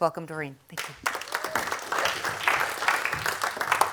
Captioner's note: applause